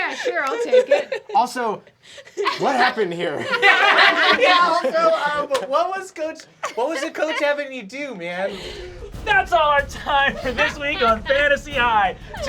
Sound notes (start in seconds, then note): 3.9 laughter